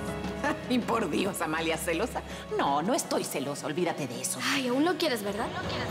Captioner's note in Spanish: Risas